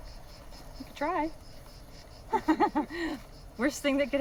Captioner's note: laughing